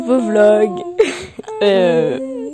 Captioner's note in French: rire